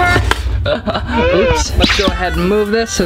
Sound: chuckles

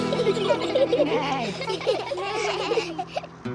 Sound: all giggle

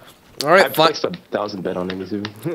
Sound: voiceover

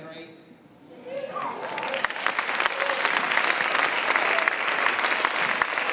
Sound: audience applauding

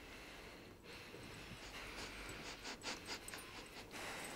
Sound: sniffing

